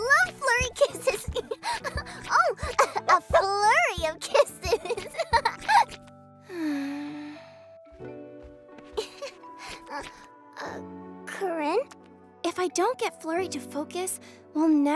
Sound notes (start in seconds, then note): 3.1 sighs